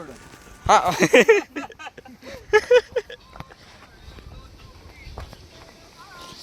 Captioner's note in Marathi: हास्य